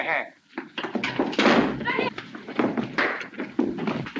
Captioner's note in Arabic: أصوات ارتطام الأجساد